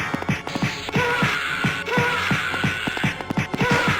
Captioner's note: enemies groan